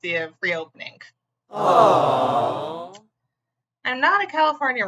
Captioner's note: aww sound effect